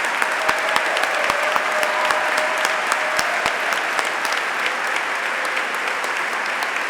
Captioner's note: applause; applause and cheering; applause